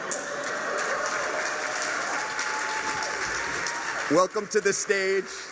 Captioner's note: cheers, aplause